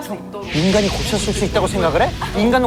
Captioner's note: sudden acceleration